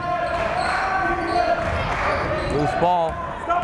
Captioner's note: yelling